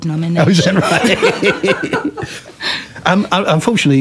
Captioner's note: laughter